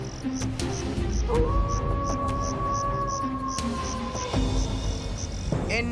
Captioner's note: wolf Howling